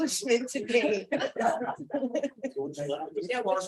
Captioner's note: laughter